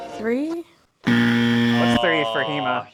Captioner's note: buzzer